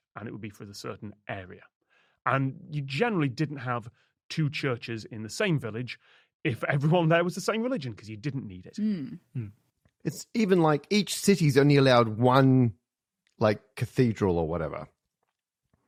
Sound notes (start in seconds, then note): none